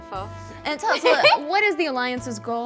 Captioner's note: laughing